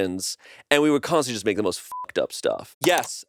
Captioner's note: beep